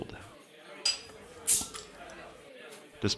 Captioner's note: bottle cap pops